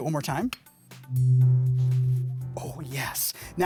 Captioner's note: tuning fork clinking and playing